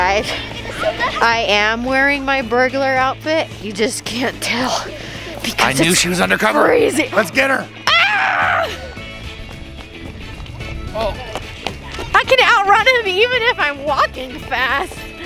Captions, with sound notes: - Guys, I am wearing my burglar outfit, you just can't tell, because it's-- - I knew she was under cover! - Just freezing. (gasps) - Let's get her! - Ah! (upbeat music) I can out run him even if I'm walking fast!